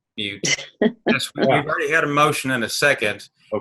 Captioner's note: laughing